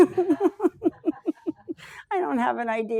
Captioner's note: laughs